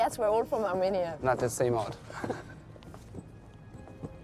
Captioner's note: laughing